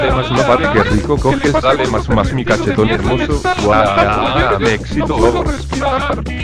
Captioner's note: sex having sounds